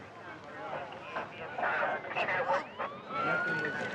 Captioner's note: sirens blaring